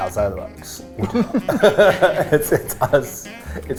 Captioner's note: laughing